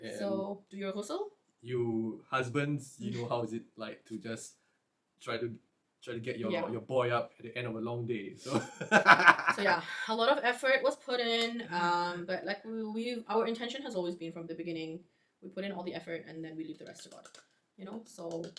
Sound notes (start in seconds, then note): 8.4 laughs; 18.2 claps